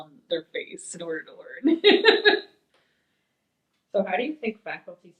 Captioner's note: laughs